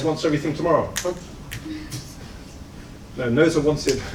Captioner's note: snaps fingers